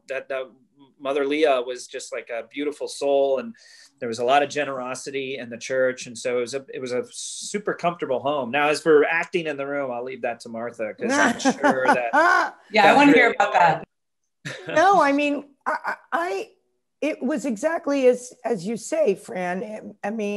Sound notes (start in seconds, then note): 11.1 laughs